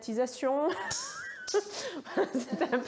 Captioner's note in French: rire